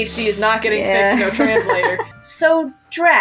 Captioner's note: laugh